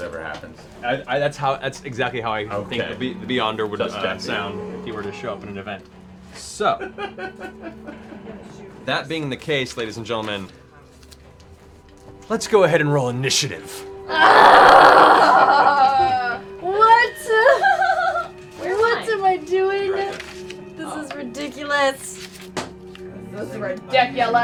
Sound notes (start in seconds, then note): 14.1 groans